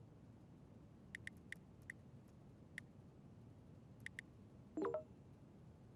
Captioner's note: cell phone keys tapping